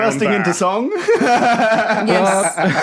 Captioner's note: laughs